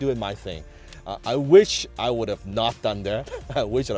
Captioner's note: laughs